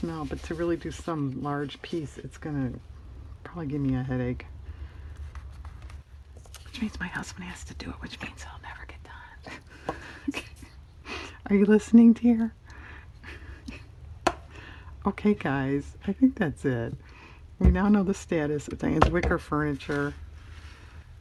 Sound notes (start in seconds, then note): 7.1 whispers; 10.0 laughs